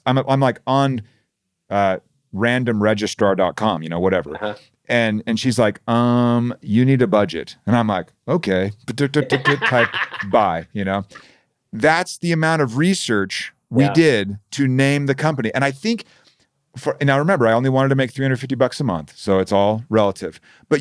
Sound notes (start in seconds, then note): 9.2 murmuring; 9.2 laughing